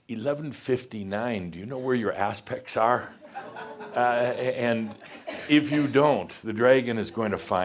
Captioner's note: some laughter